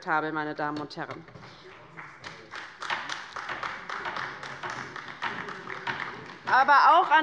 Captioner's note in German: Beifall bei der LINKEN